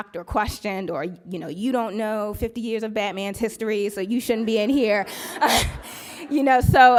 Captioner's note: laughs